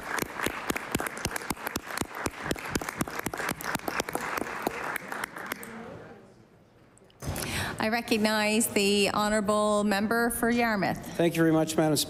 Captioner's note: applause